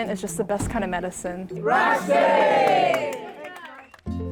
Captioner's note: crowd cheers